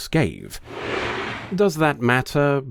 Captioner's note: scraping